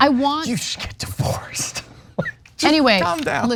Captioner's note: laugh